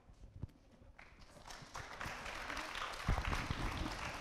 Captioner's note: applauding